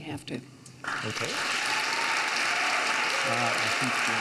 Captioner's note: audience cheers